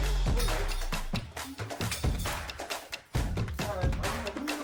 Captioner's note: metal earrings clang on floor